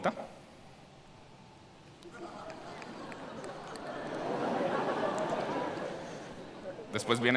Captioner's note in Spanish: Risas